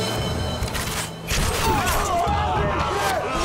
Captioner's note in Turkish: Ok atma sesleri; İnilti sesleri